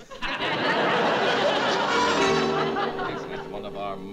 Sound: musical zap

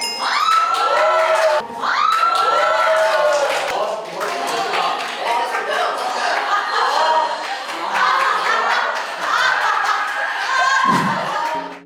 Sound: applause

